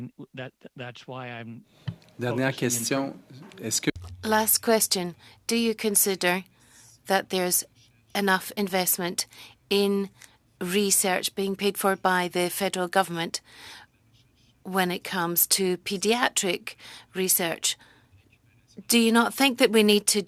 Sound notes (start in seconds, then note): 7.9 speaking French